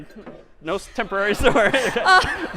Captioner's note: laughter